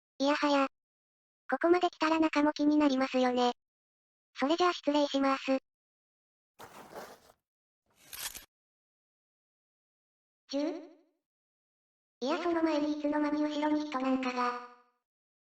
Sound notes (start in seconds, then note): 6.6 sound of holding a gun